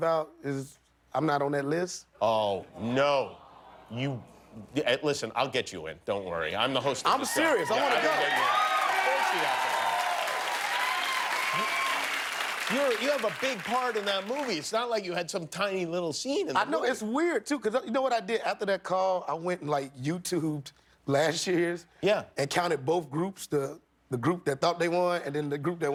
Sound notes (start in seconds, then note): 13.6 applause